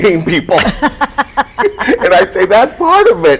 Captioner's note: laughs